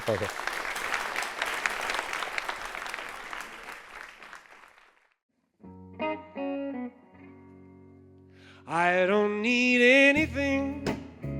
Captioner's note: applause